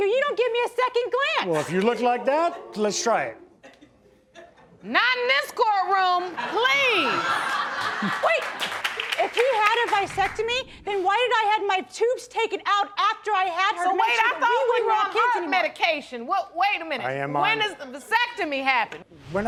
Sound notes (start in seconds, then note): 6.3 audience laughing